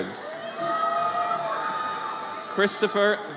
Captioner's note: audience cheers